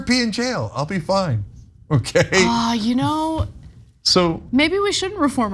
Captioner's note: laugh